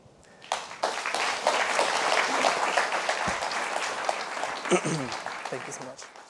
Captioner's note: applause